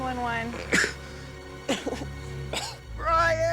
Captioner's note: coughing